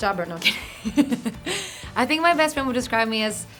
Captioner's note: laughing